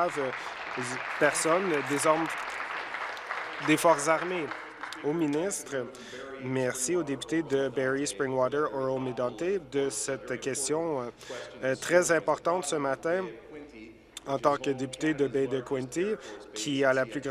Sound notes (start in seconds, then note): 5.5 applause